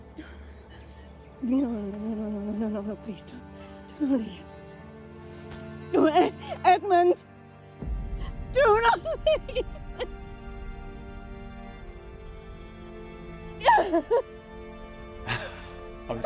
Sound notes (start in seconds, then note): 0.0 Lady Bridgerton breathing heavily; 13.6 Lady Bridgerton sobbing; 15.3 laughs